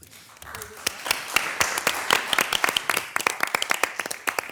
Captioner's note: everyone applauds